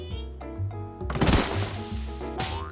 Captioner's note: crash